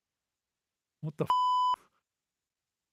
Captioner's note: beep